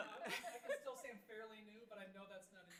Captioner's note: board chuckling